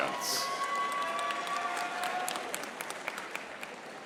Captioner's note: audience applauding